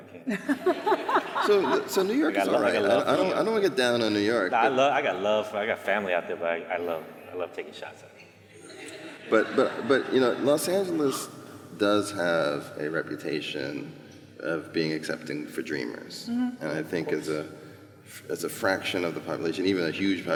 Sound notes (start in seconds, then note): 0.2 laughter